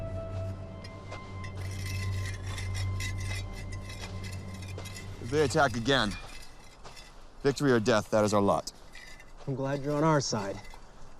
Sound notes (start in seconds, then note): 1.4 metal scraping